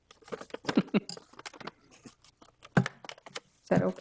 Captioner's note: laugh